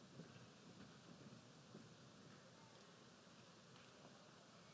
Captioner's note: none